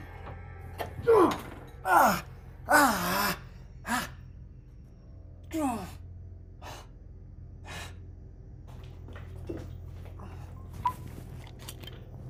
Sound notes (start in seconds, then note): 1.2 Kenny screams; 7.0 shadowy music